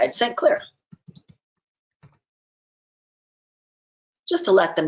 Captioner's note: keyboard typing